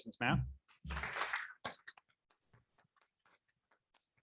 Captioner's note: applauding